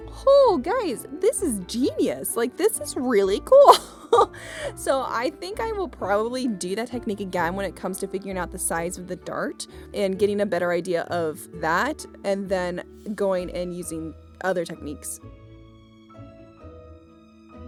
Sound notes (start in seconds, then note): 3.6 laughs